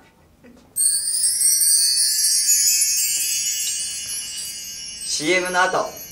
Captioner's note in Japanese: 突然のウィンドチャイム